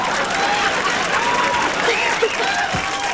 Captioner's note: cheers and applause